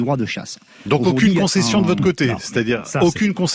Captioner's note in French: Voix chasseur